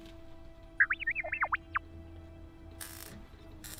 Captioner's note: R7 chirping on comlink